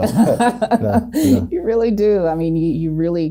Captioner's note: laughs